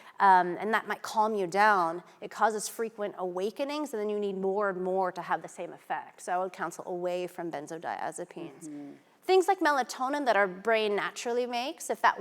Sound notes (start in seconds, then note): none